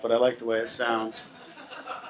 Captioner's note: audience laughs